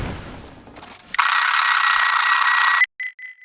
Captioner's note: incoming message alarm